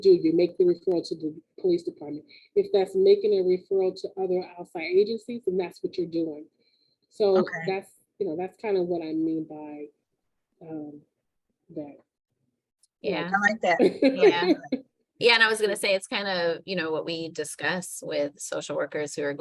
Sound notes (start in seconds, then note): 13.4 laughing